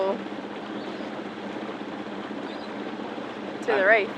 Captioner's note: boat engine rumbles